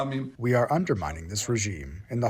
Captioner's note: through translator